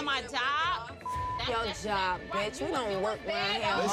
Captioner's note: beep